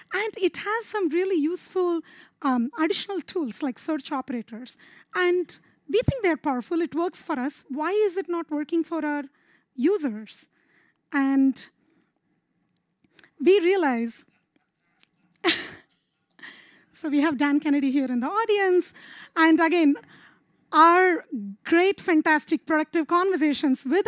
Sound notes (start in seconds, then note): 15.4 laughs